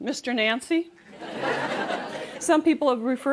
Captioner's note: laughter